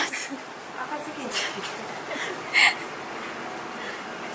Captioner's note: laughs